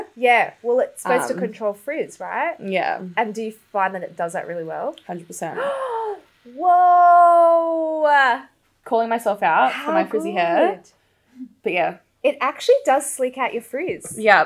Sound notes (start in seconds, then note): 5.5 gasps